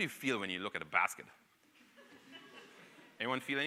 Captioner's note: audience laughing